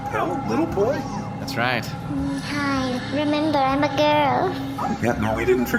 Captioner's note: hovering